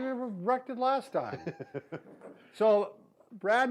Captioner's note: chuckles